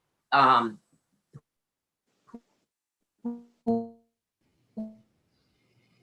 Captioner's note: audio glitch